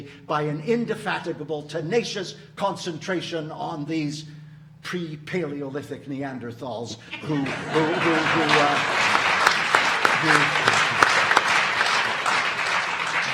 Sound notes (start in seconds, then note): 8.7 audience applauding